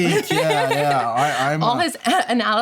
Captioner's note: laughter